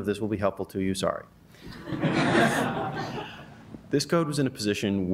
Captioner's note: laughter